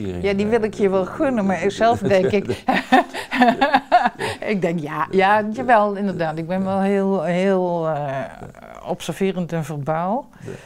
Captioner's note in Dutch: Lacht